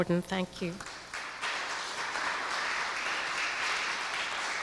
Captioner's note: applause